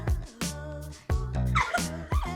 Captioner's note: laughing